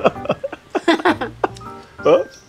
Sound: both laughing

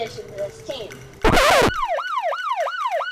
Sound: record scratching; alarm blaring

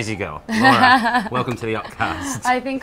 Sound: laughs

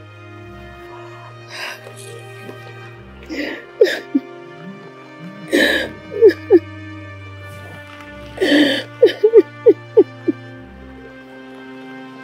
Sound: crying

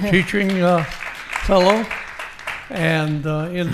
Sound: audience applauding

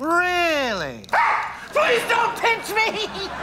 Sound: screaming

